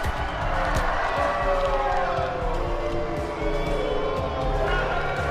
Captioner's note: punches thump; audience applauding; audience booing